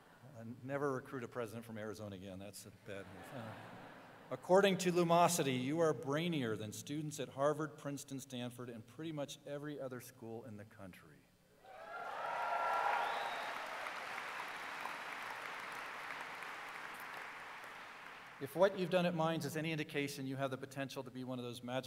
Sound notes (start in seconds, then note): 15.5 applause